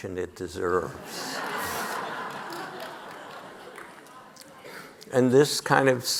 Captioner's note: audience laughing